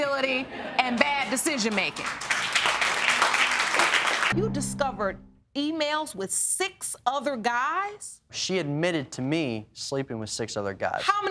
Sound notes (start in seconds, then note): 1.4 audience applauding